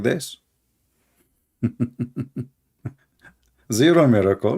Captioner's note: Ketawa